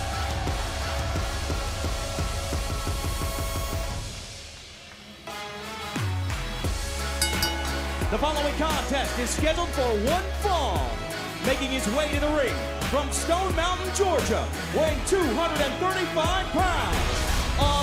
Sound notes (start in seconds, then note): 7.0 bell